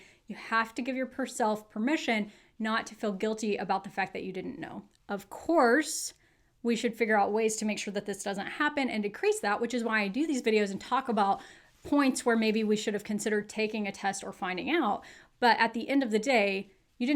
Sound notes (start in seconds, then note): none